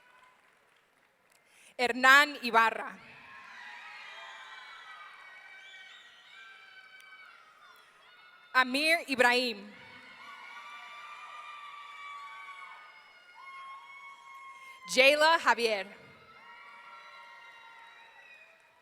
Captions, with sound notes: Hernan Ibarra. (audience cheering) Amir Ibrahim. (audience cheering) Jaela Javier. (audience cheering)